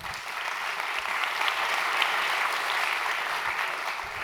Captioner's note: applause